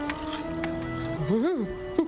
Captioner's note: bacon crunching; chuckling